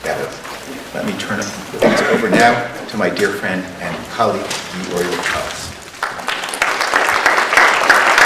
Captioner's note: applause